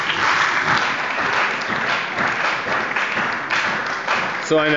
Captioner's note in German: Beifall bei der CDU und dem BÜNDNIS 90/DIE GRÜNEN